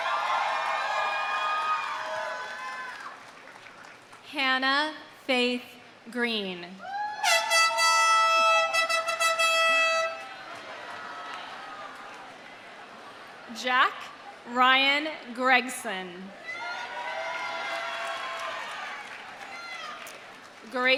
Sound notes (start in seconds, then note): 0.0 audience cheering; 0.0 audience applauding; 6.8 audience cheering; 7.2 audience applauding; 7.2 air horn blows; 16.4 audience cheering; 16.6 audience applauding